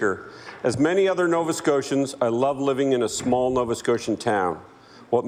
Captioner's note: applause